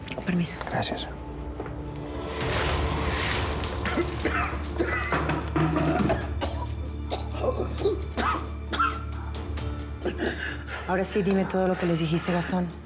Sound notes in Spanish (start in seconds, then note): 3.7 ruido al tirarle agua; 7.0 gastón tose